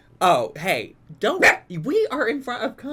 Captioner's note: Po barks